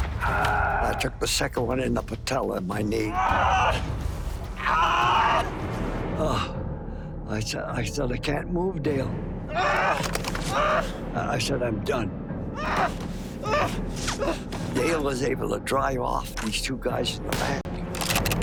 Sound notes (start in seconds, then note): 4.5 screaming; 9.5 screaming; 12.6 screaming